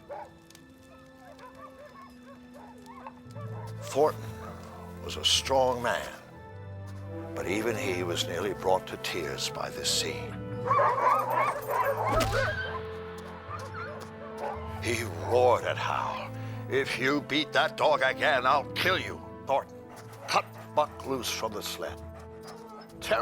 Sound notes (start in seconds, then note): 10.3 dogs barking; 10.6 whimpering